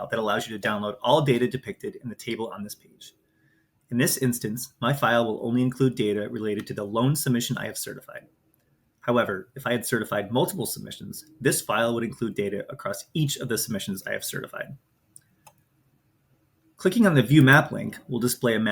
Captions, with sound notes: to download all data depicted in the table on this page. In this instance, my file will only include data related to the lone submission I have certified. However, if I had certified multiple submissions, this file would include data across each of the submissions I have certified. [Mouse clicks] Clicking on the "View Map" link will display a map